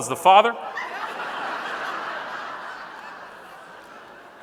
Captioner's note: audience laughing